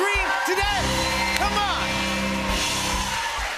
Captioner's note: cheers and applause